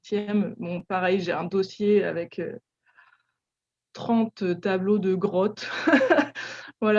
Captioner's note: laugh